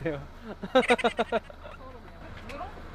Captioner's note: kekekekeke